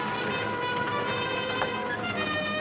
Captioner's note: car rumbling